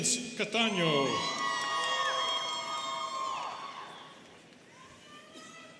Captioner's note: students cheering